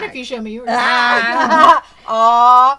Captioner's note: laughter